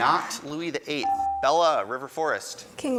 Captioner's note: buzzer dings